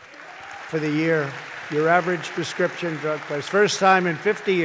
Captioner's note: applause